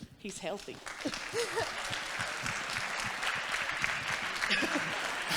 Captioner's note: congregation clapping